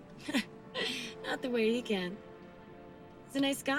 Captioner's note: laughs